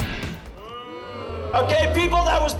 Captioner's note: crowd booing